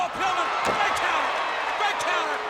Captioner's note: audience cheers